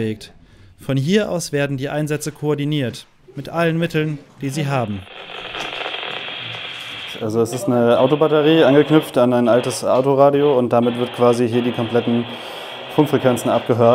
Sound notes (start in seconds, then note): 4.8 crackling over radio